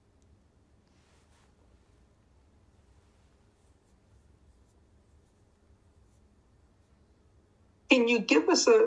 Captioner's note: pauses 6 seconds